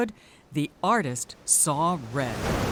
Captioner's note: waves crashing